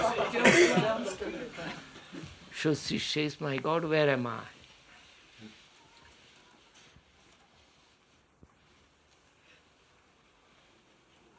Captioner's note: laughter